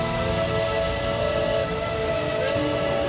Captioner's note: <i> train whistle blowing</i>